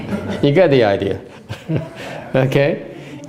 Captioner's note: laughter